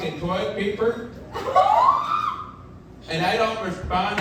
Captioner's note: audience laughing